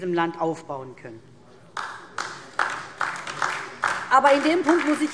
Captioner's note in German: Beifall DIE LINKE